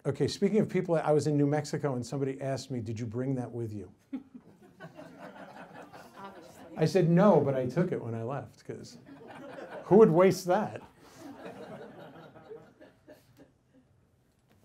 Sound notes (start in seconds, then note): 4.3 audience laughs; 11.1 audience laughs